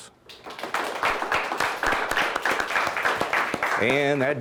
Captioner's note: applause